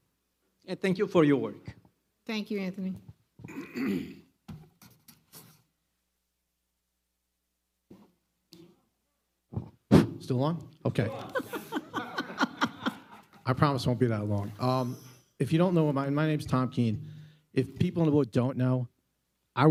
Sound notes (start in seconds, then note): 11.2 laughs loudly